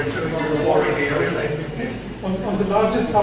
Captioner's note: laugh